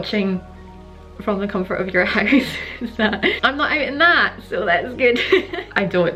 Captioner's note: laughs